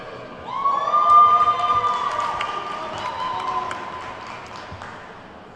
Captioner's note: attendees whooping and clapping